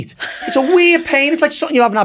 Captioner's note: laughs